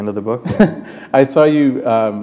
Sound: chuckle

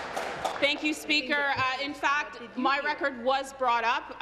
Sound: applause

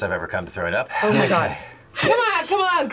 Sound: sighs

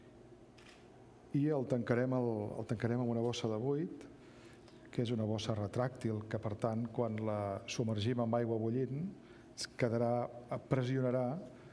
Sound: speaking catalan

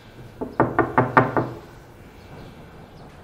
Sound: door knocking

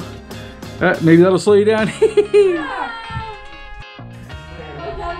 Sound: laughs

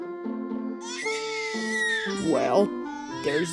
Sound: Baby Flint Crying

